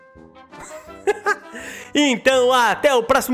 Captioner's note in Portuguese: Risos